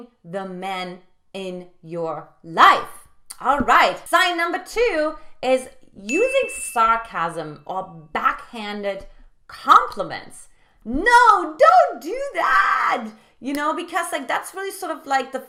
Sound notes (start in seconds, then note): 6.1 bell dings